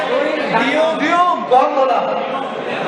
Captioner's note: someone in crowd shouts